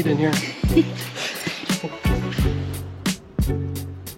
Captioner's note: laughing; gentle string music